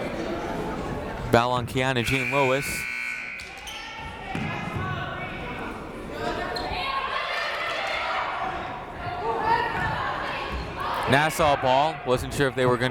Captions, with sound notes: Foul on Keyanna Jean-Louis. (siren buzzing) Nassau ball, wasn't sure if they were gonna